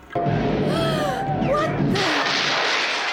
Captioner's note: gunfire; TV Noise